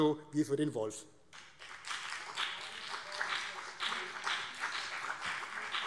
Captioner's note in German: Beifall